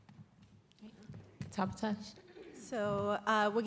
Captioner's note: non-english